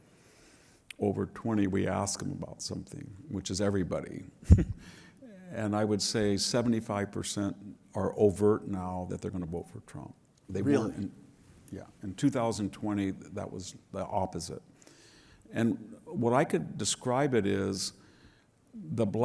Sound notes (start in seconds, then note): 4.0 laugh